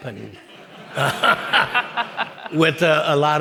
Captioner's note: audience laughing